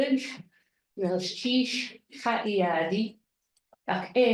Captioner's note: speaking tlingit